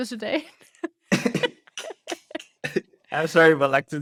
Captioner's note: laughter